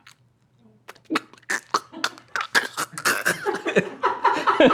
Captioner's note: choking noises; laughter